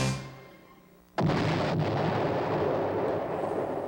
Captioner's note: distant explosion